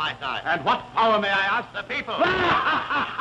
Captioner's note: laughs